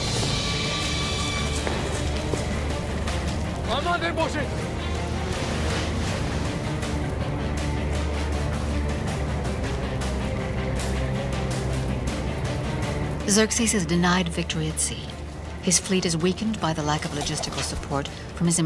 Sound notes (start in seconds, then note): 0.2 dramatic orchestral music; 3.8 Persian shouts in foreign language; 7.6 dramatic orchestral music